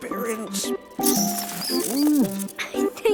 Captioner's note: Twig chitters